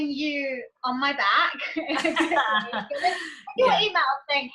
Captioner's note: lauging